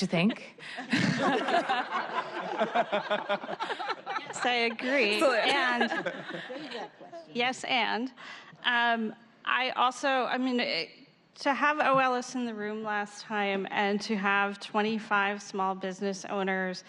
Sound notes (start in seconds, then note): 5.4 laughter